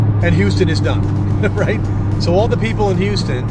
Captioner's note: chuckling